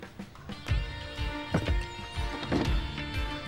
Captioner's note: Door closes